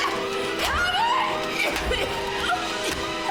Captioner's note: coughing